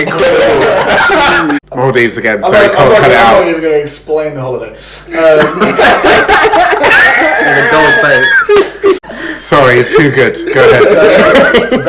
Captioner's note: laughs